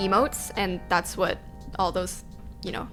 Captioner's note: notification tingling